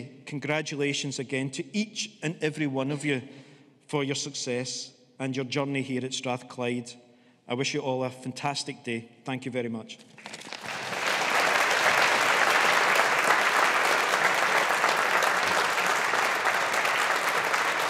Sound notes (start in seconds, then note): 10.2 audience applauding